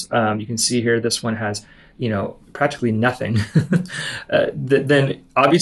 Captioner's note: laughs